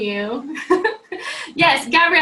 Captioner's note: chuckling